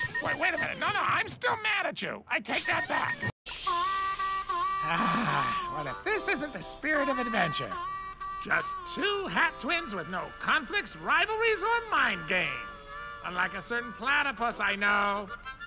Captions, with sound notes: Wait a minute. No no, I'm still mad at you! I take that back! (Harmonica playing) (sighs) Well if this isn't the spirit of adventure. Just two hat twins with no conflicts, rivalries, or mind games. Unlike a certain platypus I know.